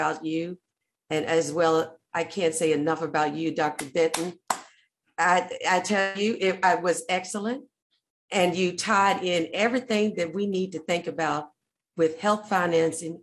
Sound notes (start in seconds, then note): 4.1 claps